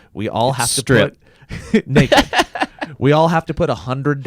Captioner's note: laughs